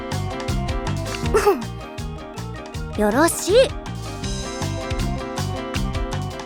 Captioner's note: ahem